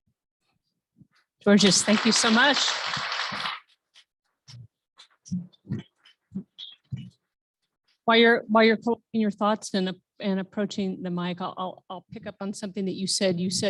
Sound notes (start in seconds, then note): 1.6 applause